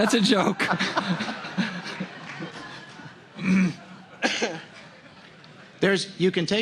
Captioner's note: laughter